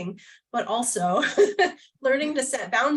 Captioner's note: laughter